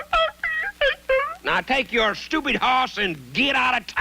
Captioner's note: Sugarfoot whimpering